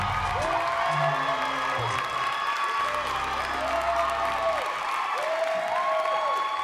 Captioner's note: audience cheering and clapping